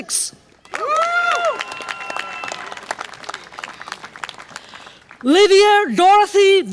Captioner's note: audience applause and cheer